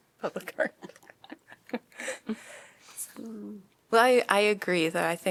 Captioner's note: laughter